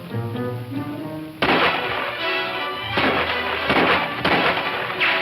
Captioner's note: more incessant gunshots